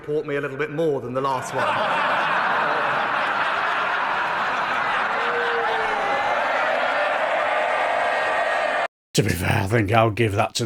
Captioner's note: laughter